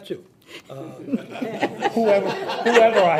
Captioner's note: people laugh